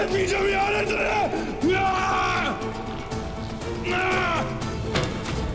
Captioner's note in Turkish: Bamsı bağırma sesi